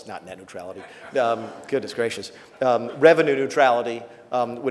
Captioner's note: laughs